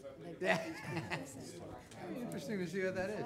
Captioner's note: man laughing